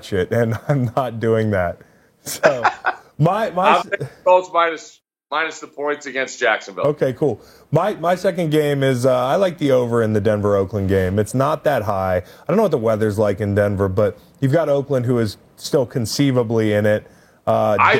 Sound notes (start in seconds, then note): 2.3 laughs